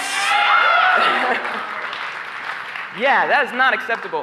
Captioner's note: applause